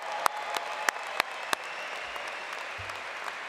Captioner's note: applause